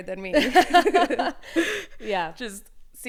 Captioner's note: both laughing